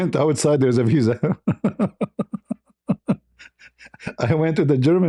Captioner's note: ketawa